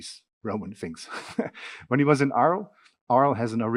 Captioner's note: laughing